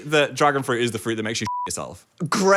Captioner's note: beep